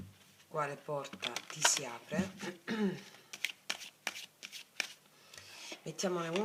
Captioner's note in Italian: schiarire la voce